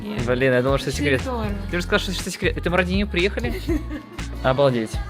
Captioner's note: laughs